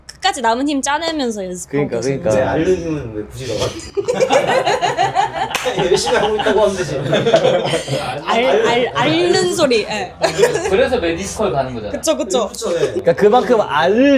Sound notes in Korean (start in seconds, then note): 3.6 웃음; 10.2 웃음